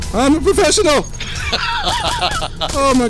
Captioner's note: laughs